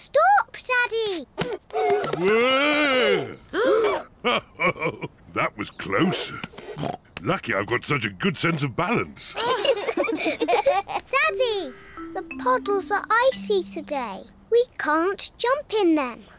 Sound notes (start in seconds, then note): 3.3 all gasp; 4.2 chuckles; 6.2 snorts; 9.3 all giggle